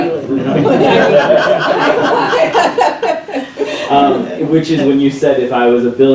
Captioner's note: laughter